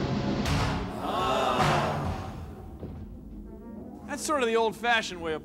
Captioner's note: <i> spectators groaning</i>